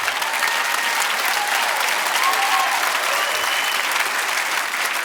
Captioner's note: audience laughing; audience applauding